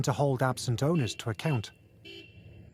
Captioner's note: car horn honking